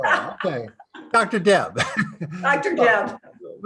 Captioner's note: laughs